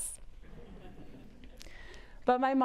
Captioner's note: audience laughs